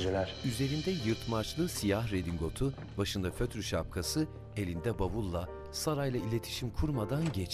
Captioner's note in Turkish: Müzik - Piyano; Ayak sesi; Kapı açılma sesi